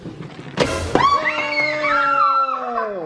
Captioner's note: screams